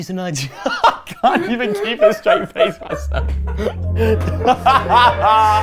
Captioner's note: laughs and stops impression